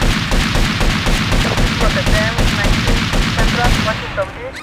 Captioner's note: gunshots; police radio chatter